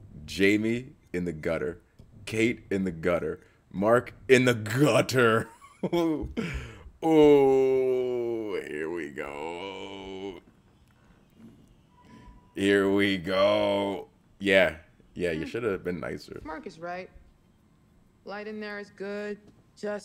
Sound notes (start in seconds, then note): 5.8 laugh